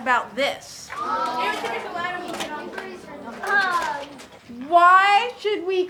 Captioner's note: students chattering